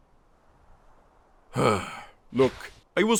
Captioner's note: sigh